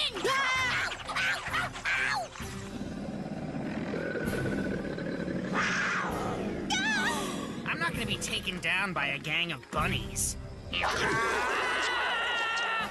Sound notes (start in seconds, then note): 0.2 Cameron Screaming; 5.2 bunnies Growling; 10.8 Chomping Sounds, Scott Screaming